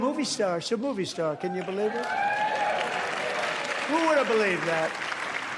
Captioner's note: applause